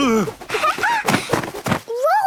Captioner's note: laughing